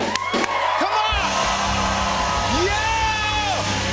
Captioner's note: cheers and applause